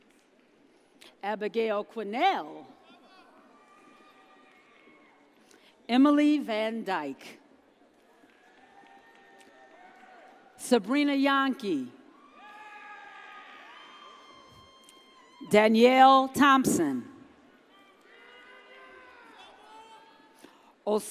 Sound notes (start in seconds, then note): 8.5 audience cheers; 12.2 audience cheers; 17.9 audience cheers